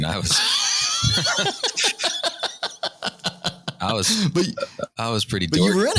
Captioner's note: laughter